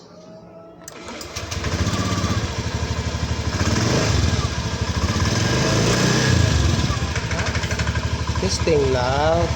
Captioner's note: motorcycle engine